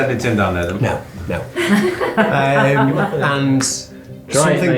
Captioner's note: laughing